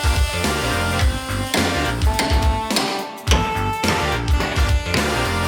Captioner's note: hammer thuds